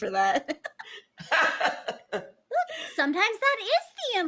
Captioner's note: everybody laughs